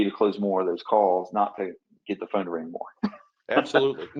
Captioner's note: chuckles